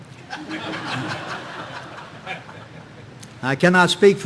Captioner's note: audience laughing